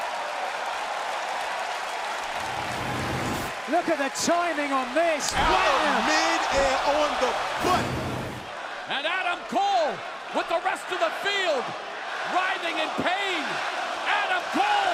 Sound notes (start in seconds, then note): 4.6 crowd cheering